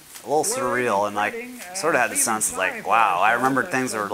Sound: voice on tape recorder

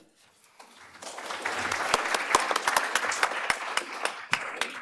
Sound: applause

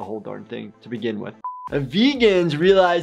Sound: buzzer beeps

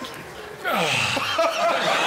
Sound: painful sighing

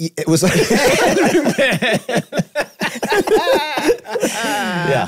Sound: group laughing

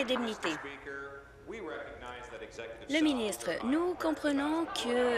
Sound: applause

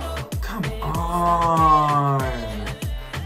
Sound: gasps

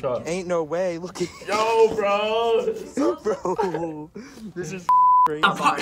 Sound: laughs

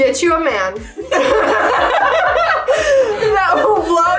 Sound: all laughing

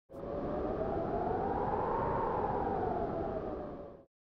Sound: wind gusting

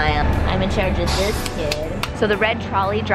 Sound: child clapping

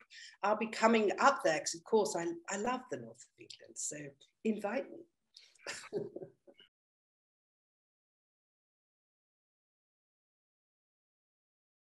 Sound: laughs

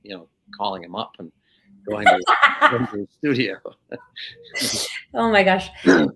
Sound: laughing

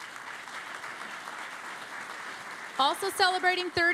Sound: applause

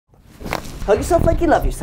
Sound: bones cracking

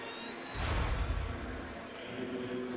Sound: game noise

